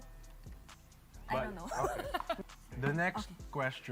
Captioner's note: chuckles